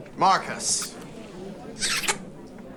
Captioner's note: loud kissing